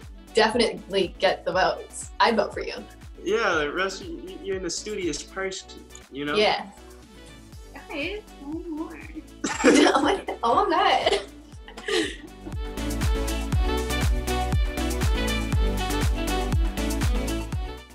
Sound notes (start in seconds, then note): 9.4 Quincy and Kaylee laughing; 11.7 upbeat music